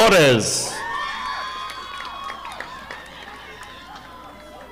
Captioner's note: audience applauding